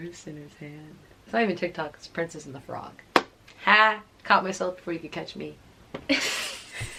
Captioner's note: giggles continue